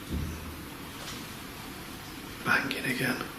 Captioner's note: banging